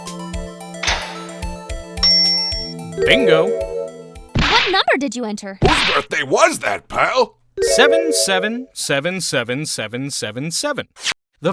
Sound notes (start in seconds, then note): 0.7 click!; 2.0 ding!